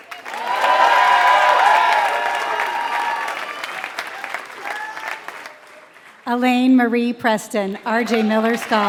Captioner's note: applause